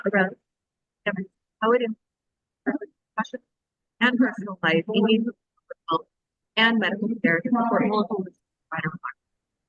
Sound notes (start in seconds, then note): 1.0 audio distorts; 8.6 audio distorts